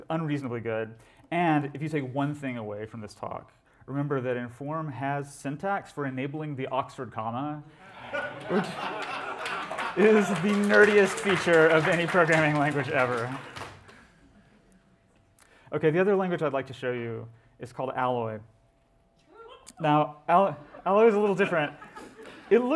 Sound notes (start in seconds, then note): 8.3 applause; 18.2 scattered whoops from audience